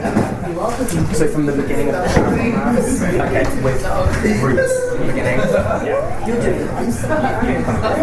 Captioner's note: commotion